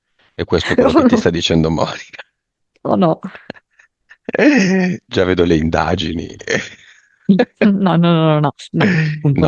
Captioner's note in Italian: risate